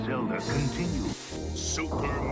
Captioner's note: TV static